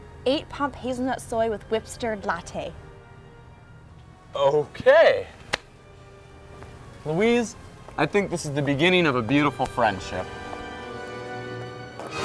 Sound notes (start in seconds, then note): 5.5 claps